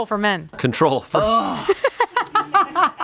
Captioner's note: everyone laughs